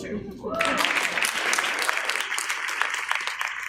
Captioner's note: applause